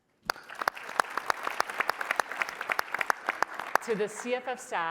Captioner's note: applause